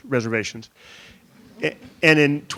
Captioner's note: audience chuckling